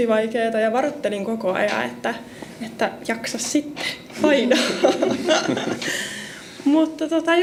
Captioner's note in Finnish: naurua